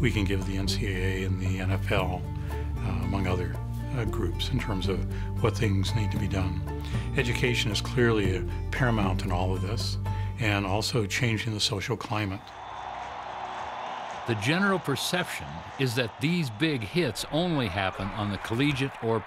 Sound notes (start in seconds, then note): 12.1 crowd cheering